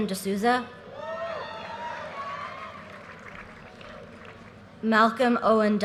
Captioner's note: audience cheers and applause